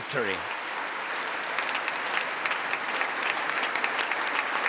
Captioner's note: congress applauding